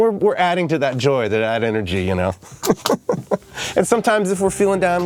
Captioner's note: laughs